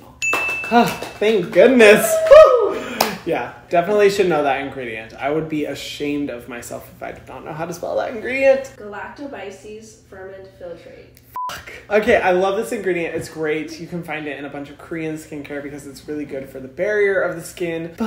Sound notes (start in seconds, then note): 0.0 ding and clapping; 11.3 beep